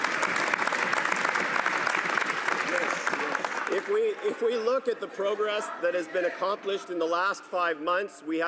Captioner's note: some Applause